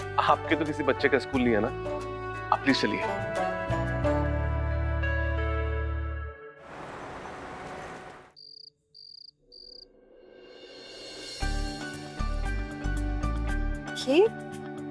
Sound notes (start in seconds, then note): 6.7 traffic sound; 11.4 cheerful music playing